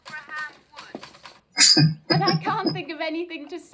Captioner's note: chuckling